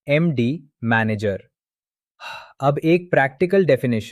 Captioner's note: exhales